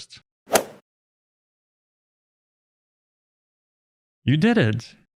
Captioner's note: golf ball hit sound effect